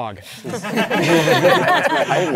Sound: participants laughing

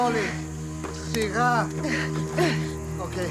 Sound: speaking in Greek

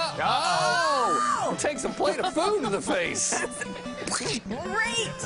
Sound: laughter

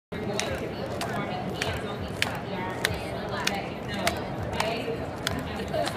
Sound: background chatter

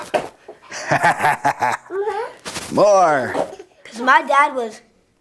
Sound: laughs

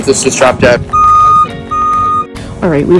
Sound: van reverse beeping

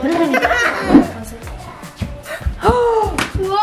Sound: laughing

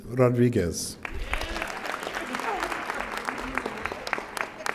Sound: audience applauding

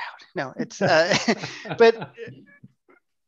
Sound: laughs

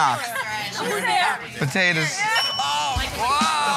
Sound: ding

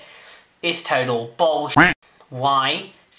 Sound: quack

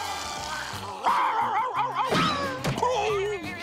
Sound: yowling; barking

